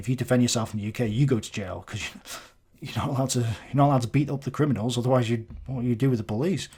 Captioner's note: fake-sniff